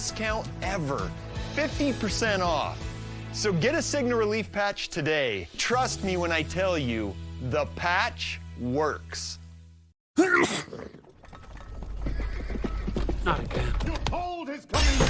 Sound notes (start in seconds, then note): 10.2 sneeze; 12.8 hooves approaching